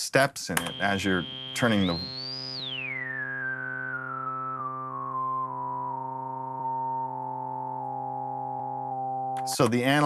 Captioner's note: moving digital tone